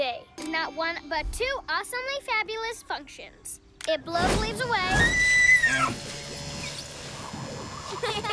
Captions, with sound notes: Not one, but two awesomely fabulous functions. - It blows leaves away. - (Shrieks)